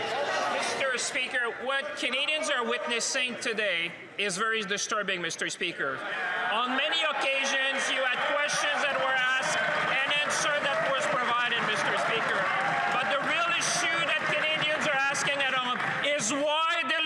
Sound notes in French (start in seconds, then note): 0.2 voix de l'interprète; 7.6 voix de l'interprète